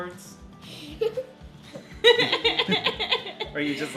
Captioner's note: laughing